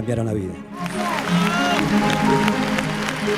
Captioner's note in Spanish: Aplausos